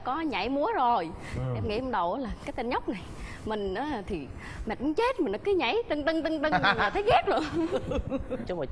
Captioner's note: male MC laughing